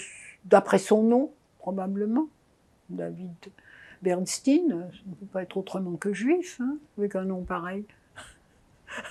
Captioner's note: laughing